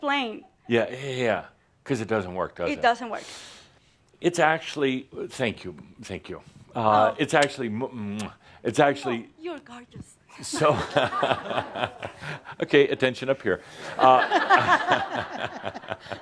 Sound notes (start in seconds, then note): 7.9 Adamus blows a kiss back